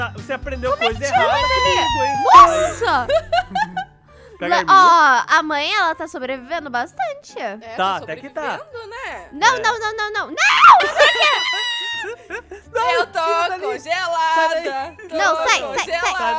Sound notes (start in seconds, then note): 3.1 laugh; 10.4 screams and laughter